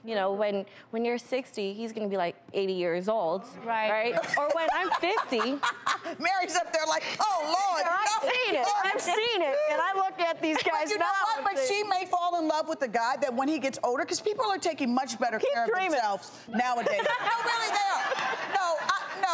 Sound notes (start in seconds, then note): 16.8 laughing